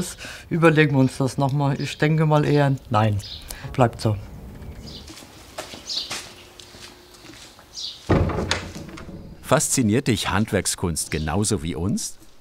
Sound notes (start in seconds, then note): 8.8 birds chirping